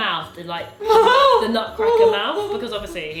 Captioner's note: laughs